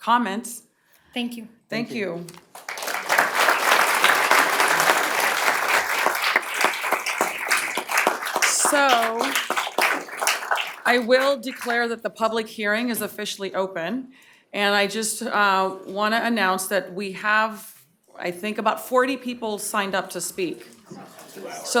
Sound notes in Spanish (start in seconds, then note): 7.3 aplausos